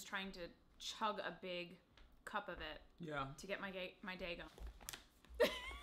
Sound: laughing

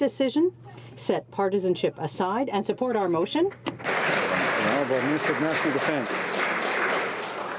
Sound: some Applause

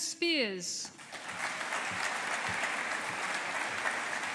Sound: audience applauding

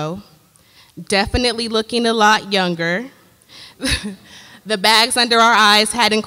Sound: laughs

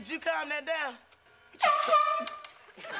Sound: air horn blowing

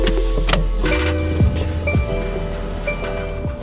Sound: car beeping

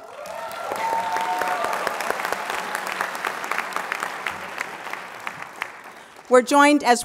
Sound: applause

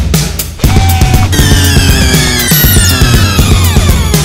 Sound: sound - drilling machine whirring

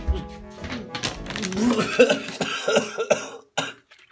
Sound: spitting and gagging

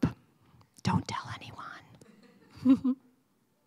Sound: whispers; chuckle

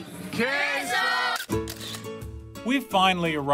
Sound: camera clicking

